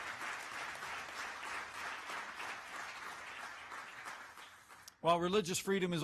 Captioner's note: applause